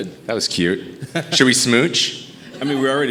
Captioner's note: laughing